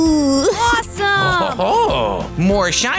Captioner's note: chuckles